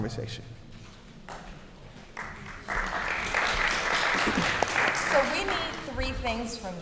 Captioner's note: applause